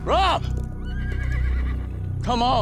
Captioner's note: horse whinnies